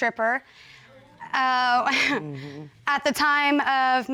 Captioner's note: chuckles